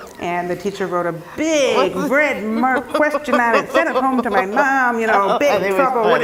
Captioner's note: laugh